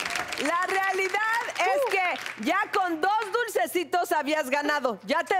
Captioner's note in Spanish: Aplausos